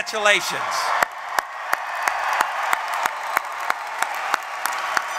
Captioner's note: applause